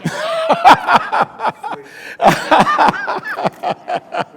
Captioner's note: speaker laughing